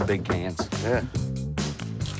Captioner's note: knocking